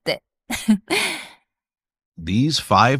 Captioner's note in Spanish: risas